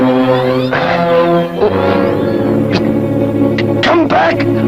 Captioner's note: unsettling tune; thor gasps